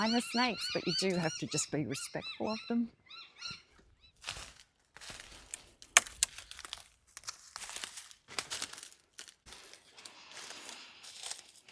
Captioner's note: crunching Leaves and sticks